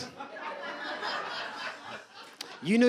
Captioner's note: audience laughs